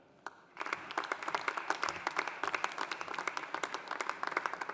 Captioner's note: audience applauding